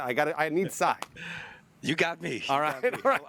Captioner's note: laughter